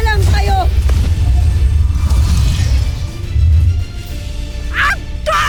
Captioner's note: weapons whooshing